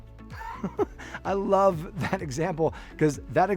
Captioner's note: laughs